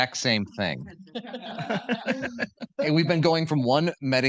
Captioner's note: participants laughing